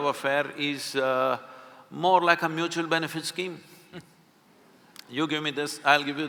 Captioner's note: Karan Johar laughs